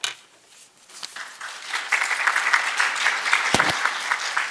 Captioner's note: applause